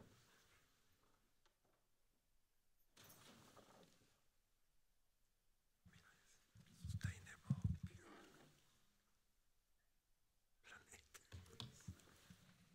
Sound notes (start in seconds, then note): 6.7 speaking Spanish